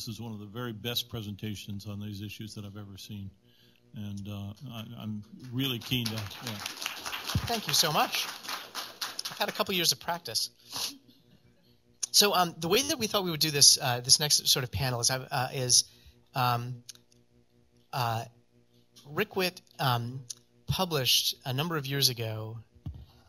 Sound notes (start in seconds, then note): 5.4 applause